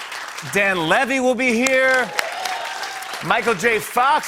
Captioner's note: cheers and applause